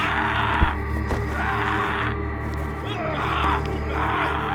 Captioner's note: yelling